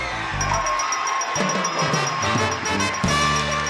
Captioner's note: ringing; victorious music